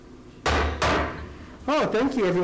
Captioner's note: gavel slamming